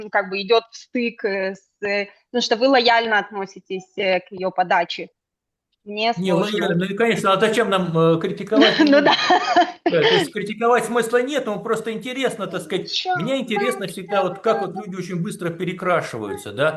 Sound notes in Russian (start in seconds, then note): 8.4 смех; 10.2 откашливается